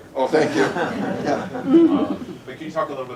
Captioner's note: laughter